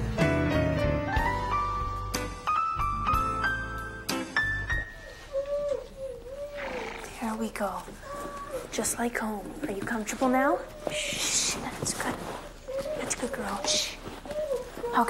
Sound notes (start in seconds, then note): 5.6 dog whimpering